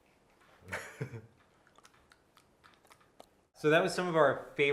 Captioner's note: chuckles